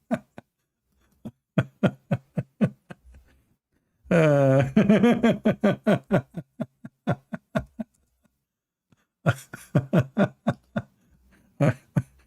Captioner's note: Ketawa